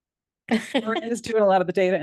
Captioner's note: board member laughs